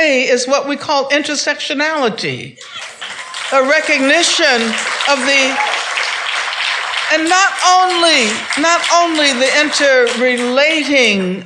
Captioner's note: claps